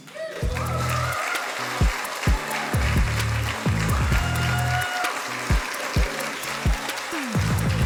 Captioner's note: audience cheering; cheerful music